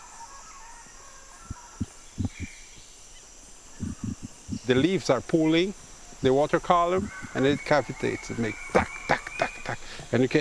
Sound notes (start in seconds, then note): 2.6 dull thudding